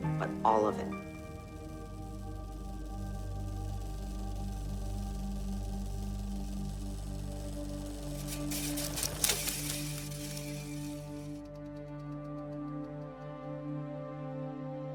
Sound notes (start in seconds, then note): 1.2 film projector running; 10.1 dramatic music